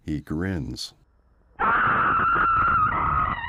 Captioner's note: screams